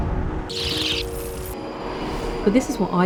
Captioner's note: London underground sounds; busy City sounds; tube arriving loud sound